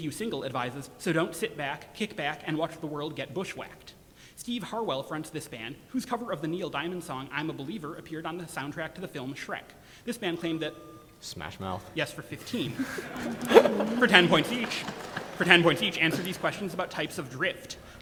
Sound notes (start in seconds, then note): 12.2 audience laughter